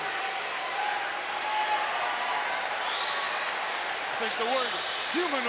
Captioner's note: crowd cheering continues